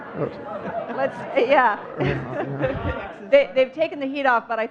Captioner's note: audience laughing; chuckling